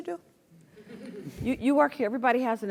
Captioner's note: laugh